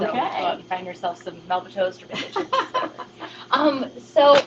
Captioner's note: laughter